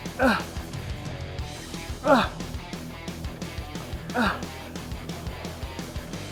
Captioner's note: upbeat rock music continues; Ethan grunting